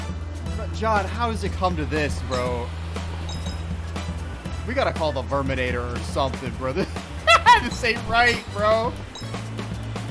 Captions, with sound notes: Jon how does it come to this bro... We gotta call the Verminator or something bro, this- [Laughter] -This ain't right, bro!